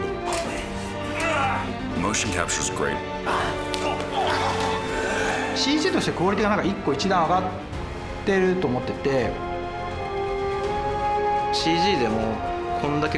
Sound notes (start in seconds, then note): 1.8 in English; 3.2 grunting